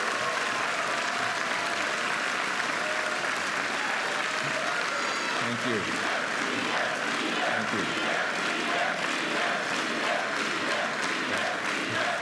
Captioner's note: applause and cheering